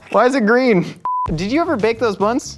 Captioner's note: high pitched beep